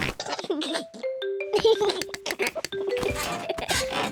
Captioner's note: giggles